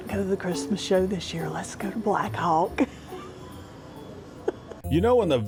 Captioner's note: laughs